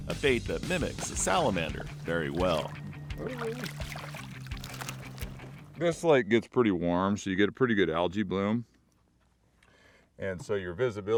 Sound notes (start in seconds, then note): 5.9 fish splashing